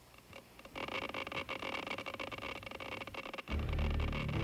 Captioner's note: rapid ticking